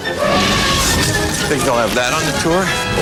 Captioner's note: dinosaur roars